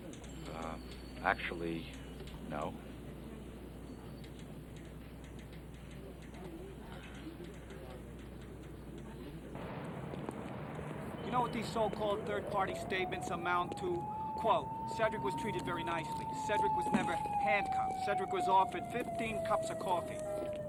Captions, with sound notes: - Um, actually, no. (typewriter typing) (people chattering) - You know what these so-called third-party statements amount to? Quote, Cederic was treated very nicely. Cederic was never handcuffed. Cederic was offered 15 cups of coffee.